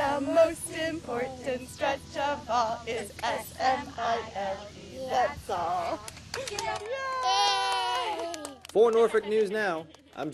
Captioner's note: cheers and applause